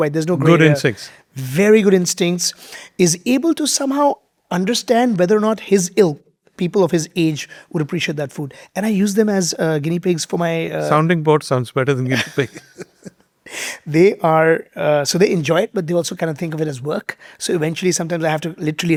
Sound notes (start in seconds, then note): 12.1 both laughing